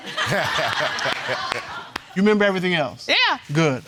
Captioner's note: all laughing